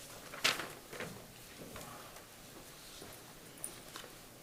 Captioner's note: papers rustling